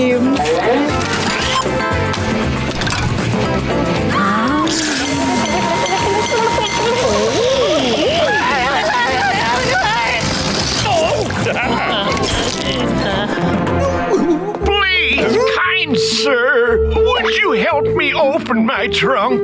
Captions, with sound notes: [upbeat music playing] [bell continuously ringing] Ohh... Woo... [laughing] Please, kind sir, would you help me open my trunk?